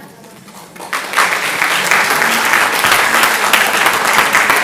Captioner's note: audience applauding